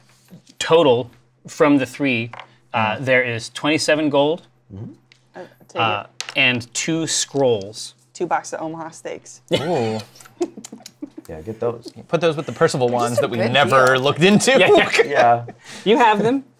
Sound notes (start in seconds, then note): 9.6 laughs